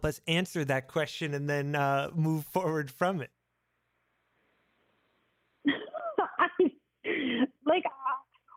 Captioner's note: laughs